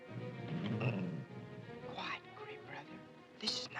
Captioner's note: ominous music; wolf growls